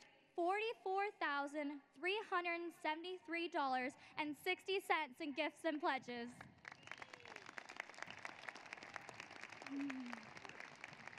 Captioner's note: applause